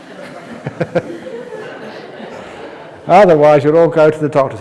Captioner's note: laughs